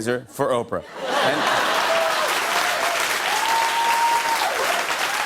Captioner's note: cheers and applause